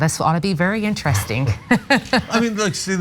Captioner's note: laugh